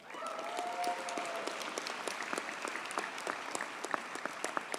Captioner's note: audience cheers and applauds